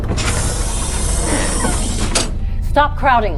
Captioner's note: door opening